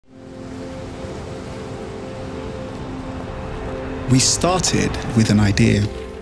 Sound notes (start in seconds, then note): 0.0 gentle music; 0.0 sea breezes blowing